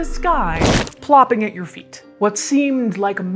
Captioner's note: body thumps